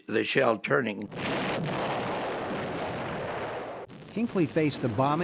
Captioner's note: artillery firing